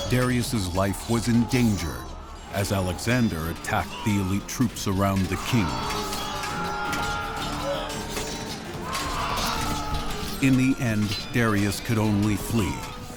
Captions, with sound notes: Darius' life was in danger as Alexander attacked the elite troops around the king. [screams] In the end, Darius could only flee.